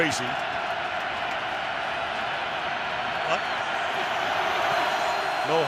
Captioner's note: crowd cheering